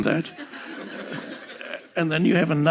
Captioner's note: publicul râde